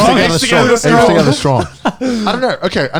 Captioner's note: laughs